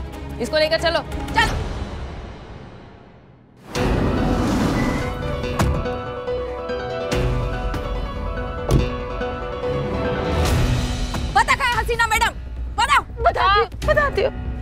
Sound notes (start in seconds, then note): 3.6 dramatic music; 4.4 door opening sound; 8.4 door closing sound